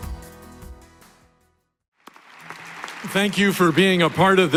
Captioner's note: applause